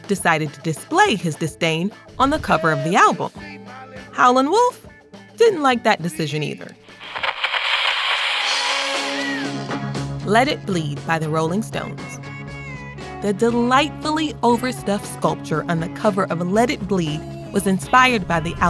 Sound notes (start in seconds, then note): 6.4 radio crackles; 9.0 upbeat music plays